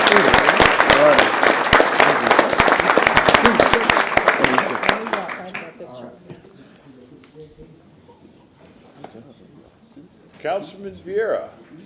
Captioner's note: applause